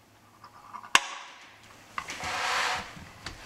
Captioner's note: click